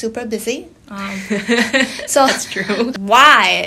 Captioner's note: laughing